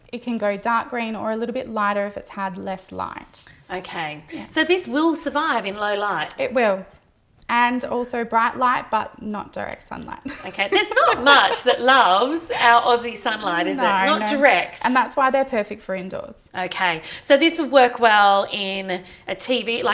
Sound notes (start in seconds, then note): 10.3 laughs